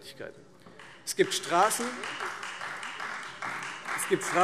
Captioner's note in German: Beifall Freie Demokraten